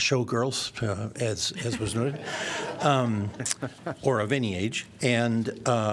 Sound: laughter

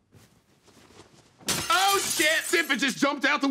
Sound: glass shattering

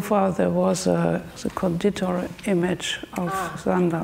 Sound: speaks German

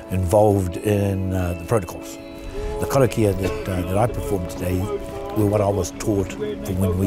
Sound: incantations

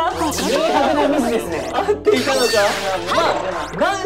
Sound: laughs

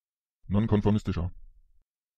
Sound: fast Pronunciation

